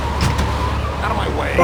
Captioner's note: tires screeching